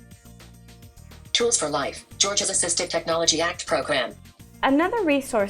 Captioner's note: screen reader speaking